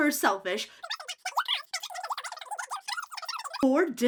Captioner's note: voice fast-forwards